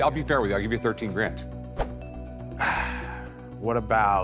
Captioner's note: sighs